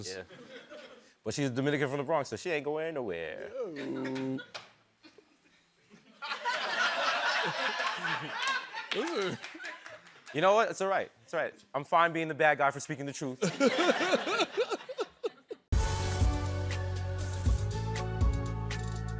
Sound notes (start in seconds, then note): 5.8 laughter; 13.4 laughter